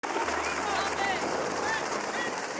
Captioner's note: helicopter whirring